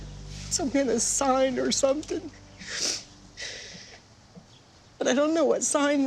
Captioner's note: sobs